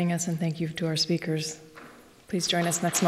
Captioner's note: applause